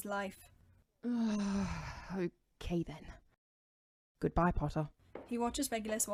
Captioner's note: Regulus lets out an aggravated sigh